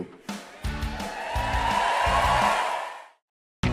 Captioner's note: crowd cheers